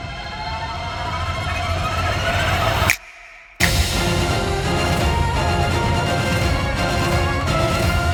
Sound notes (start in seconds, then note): 2.9 snaps fingers; 4.1 dramatic music playing